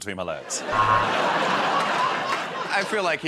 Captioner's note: laughter